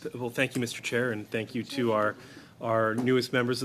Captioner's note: speaking French